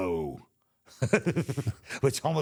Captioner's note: Michael laughs